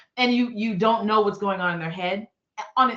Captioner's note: none